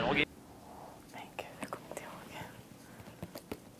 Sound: Magda, whispering

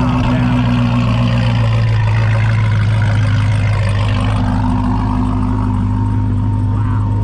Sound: car engine running

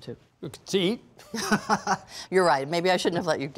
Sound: laughs

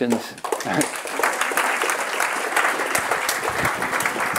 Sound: applause

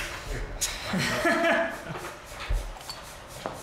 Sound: laughs

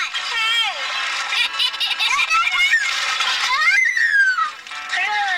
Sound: laughing and squealing

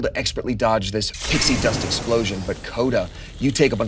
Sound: pixie dust sound

